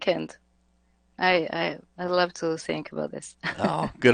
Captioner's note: laughs